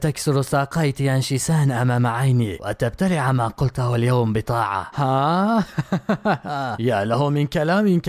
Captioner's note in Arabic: ضحك